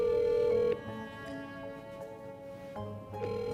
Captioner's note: phone ringing